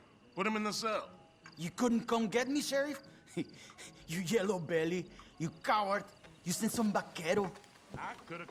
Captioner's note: laughs